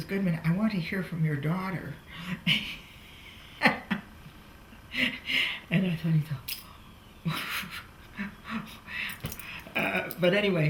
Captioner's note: laughs